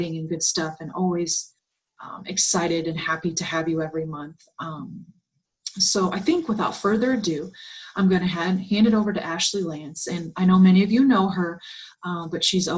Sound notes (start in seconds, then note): 7.7 Arabic; 11.3 Vietnamese